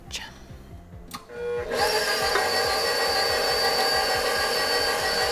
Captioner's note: mixer whirs